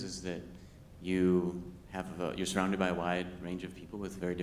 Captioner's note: none